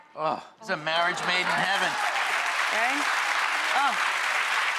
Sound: audience clapping

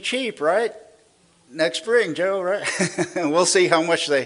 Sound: laughs

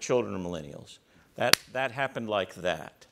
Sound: claps hands

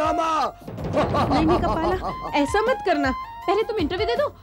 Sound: laughs

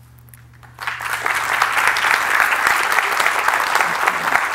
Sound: applause

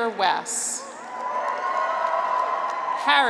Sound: graduates cheer

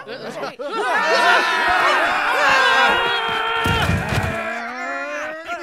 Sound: yelling

